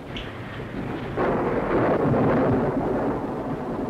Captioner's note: thunder